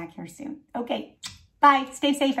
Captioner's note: kissing